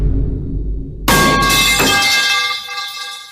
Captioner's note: vine boom sound; metal pipe hit sound